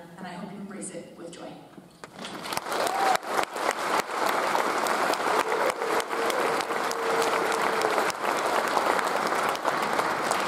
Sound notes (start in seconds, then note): 2.0 audience applauds